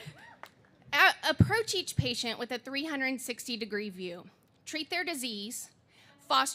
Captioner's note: laughing